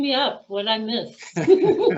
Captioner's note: laughing